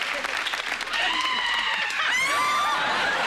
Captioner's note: screaming; all laughing